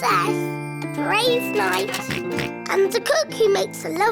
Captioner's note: oinks